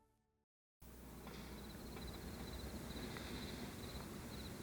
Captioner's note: crickets chirp